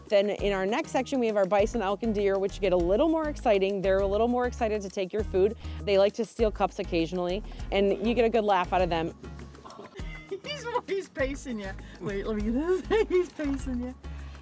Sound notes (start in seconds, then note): 9.6 light laughter